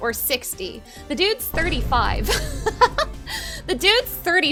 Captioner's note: laughing